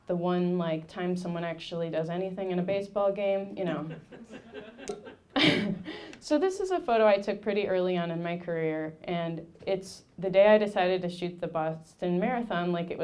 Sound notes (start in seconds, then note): 3.6 laughing; 3.6 audience laughing